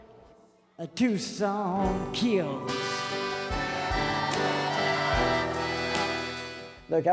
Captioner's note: crowd cheers